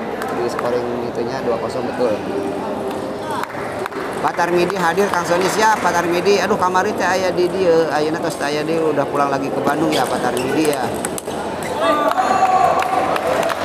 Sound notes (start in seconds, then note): 3.7 applause